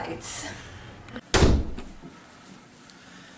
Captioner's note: door slam